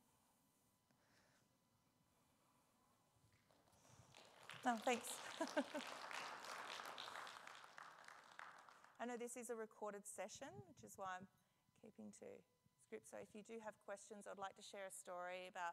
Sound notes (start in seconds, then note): 4.0 audience applauds; 5.1 laughs